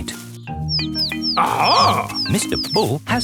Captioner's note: chirping